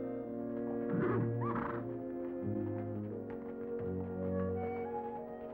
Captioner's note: horse whinnying; gentle orchestral music